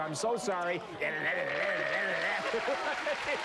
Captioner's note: imitates Whammy sounds; laughter